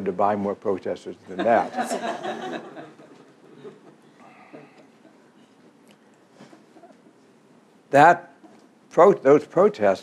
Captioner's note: laughs